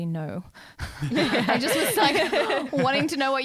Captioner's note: laughing together